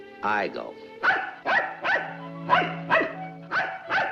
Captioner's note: dog barking